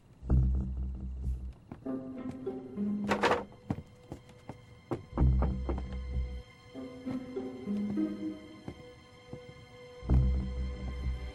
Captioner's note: eerie Music; knocking on the door